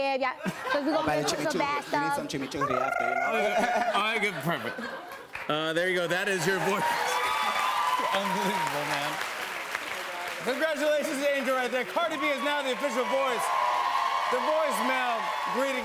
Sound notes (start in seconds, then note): 0.4 laughter; 2.6 trills tongue; 7.4 cheers and applause